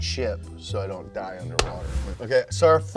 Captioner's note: clapping